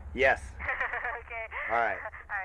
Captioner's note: laughs